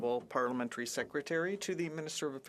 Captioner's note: speaking French